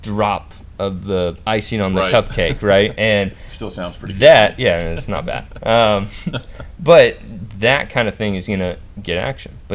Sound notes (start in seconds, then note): 5.7 laughing